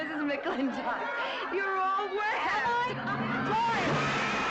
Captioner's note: laughing